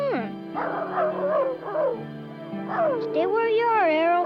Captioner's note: Arrow barking